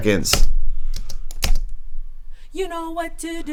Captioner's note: keyboard clicks